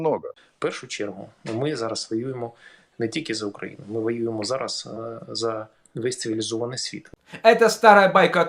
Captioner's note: in Ukrainian